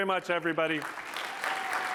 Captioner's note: applause